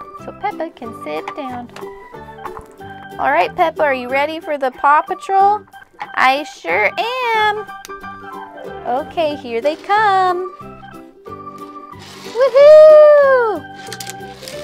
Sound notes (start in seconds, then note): 9.1 voice-over